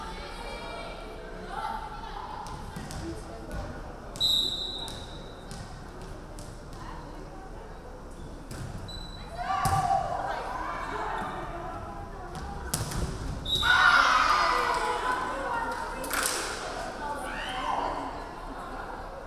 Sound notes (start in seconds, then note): 4.2 referee whistling; 13.4 referee whistling; 13.8 crowd cheering